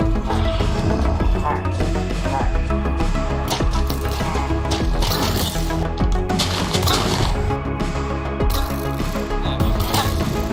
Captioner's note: growl